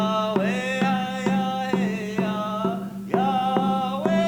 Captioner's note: none